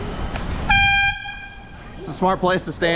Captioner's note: airhorn